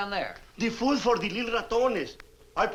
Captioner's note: speaks Spanish